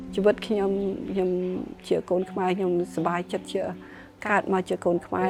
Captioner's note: speaking foreign language